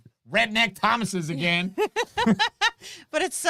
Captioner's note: both laughing